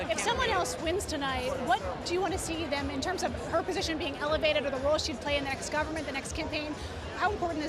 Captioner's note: none